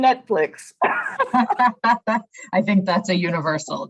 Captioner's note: laughter